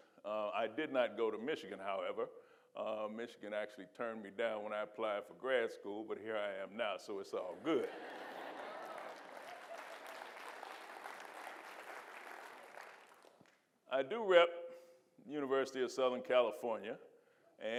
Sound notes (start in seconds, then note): 7.6 audience laughing and applauding